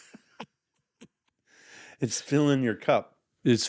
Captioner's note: laughing